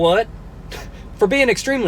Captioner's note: laughs